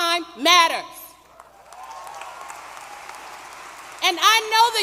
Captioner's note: applause